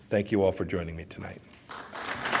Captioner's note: applause